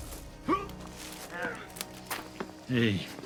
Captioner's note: Kent grunting